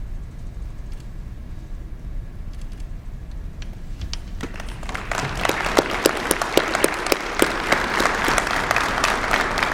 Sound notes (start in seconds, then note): 4.4 applause